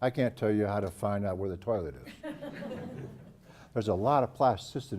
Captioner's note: laugh